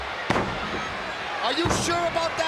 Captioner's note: fist thudding